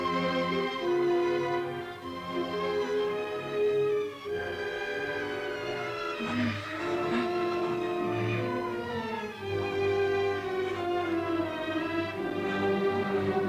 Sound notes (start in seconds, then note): 6.2 Cleo moans; 8.7 romantic orchestral music continues